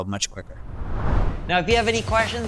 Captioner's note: screen whooshes